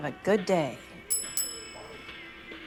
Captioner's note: doorbell rings